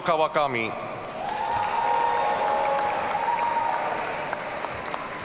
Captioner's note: audience cheering